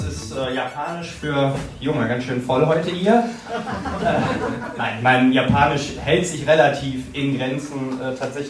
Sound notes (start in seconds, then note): 3.2 crowd laughing